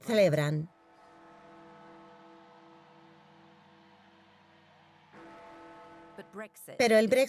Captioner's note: crowd cheering; bells tolling